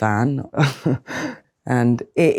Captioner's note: Adwoa scoffing